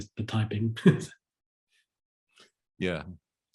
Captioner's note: chuckles